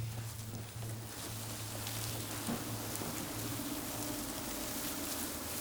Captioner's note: grass rustling